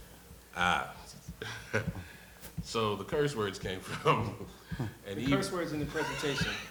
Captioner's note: laughs